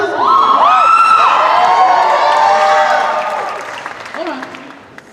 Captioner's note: cheers and applause